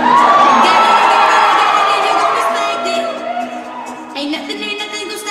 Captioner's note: audience cheers